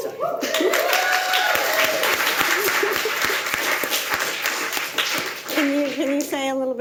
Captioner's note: audience cheering and applauding